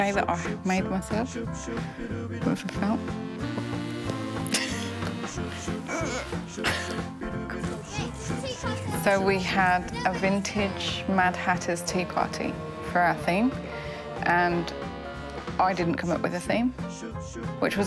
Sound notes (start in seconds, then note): 4.4 laughs